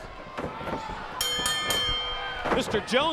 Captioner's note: bell ringing